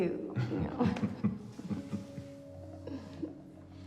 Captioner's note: both laughing